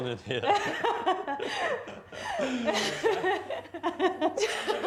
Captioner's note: giggling and crying